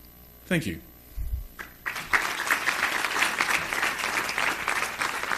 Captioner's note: audience applauding